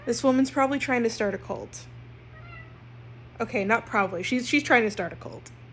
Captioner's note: Mila meows